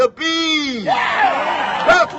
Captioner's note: cheers